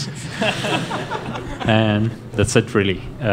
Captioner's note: laughter